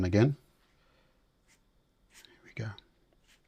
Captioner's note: silence